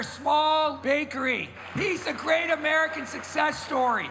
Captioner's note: crowd applauds